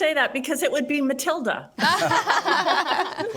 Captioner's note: group laughs